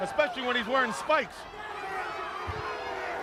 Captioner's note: crowd chatter